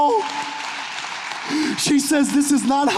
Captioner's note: audience clapping